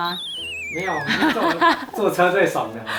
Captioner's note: laughs